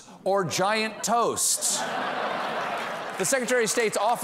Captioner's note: laughter